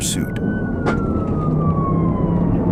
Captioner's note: siren